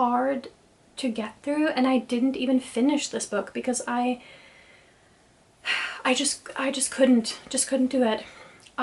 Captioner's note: sighs